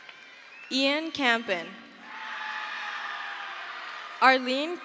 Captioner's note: crowd cheers